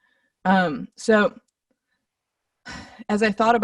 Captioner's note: sighs heavily